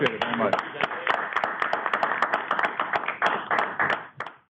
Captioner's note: applause